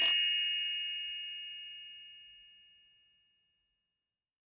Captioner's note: bells chiming